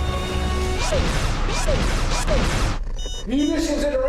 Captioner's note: gun zaps